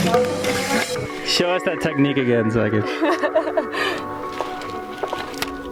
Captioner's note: laughs